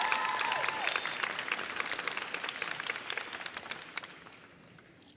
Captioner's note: audience cheers